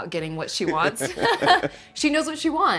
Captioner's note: laughing